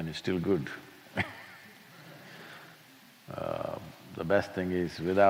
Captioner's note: laughs